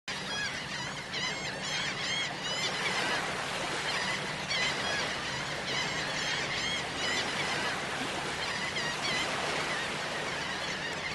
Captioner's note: seagulls Cawing